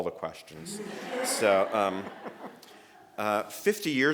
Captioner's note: laughter